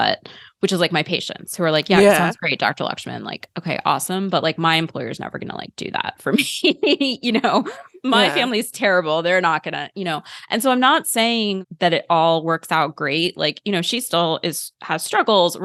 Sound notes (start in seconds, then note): 7.3 laughter